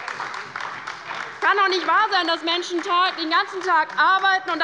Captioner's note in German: Beifall bei der LINKEN